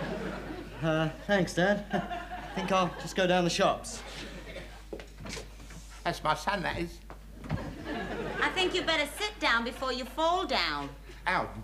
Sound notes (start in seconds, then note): 4.6 door closes; 7.4 audience chuckling